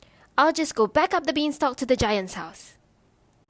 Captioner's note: none